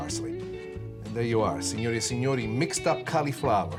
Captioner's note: speaks foreign language